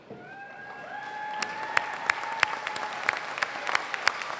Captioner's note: applause